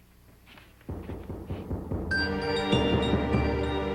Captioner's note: door knocking